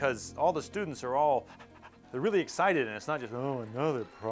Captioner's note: panting